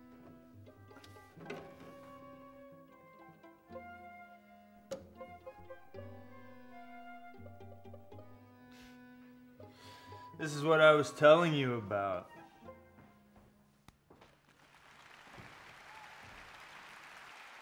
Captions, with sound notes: This is what I was telling you about. (clapping)